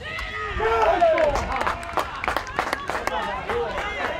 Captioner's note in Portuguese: gritos de gol